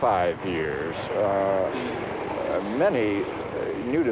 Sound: background traffic sounds

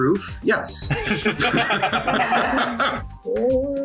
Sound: group laughs

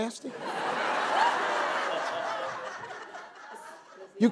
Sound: audience laughing

